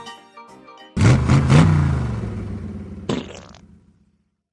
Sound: engine revving. pooping noise

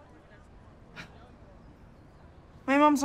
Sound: scoffs

